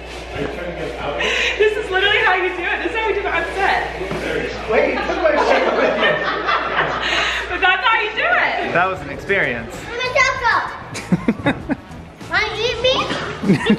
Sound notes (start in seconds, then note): 5.2 laughs; 10.9 laughs